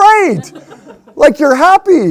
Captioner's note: woman laughs